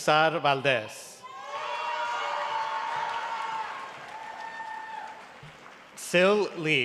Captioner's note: cheering and applause